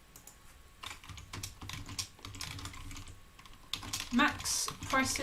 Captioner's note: keyboard clicking